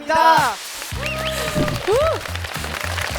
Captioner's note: cheers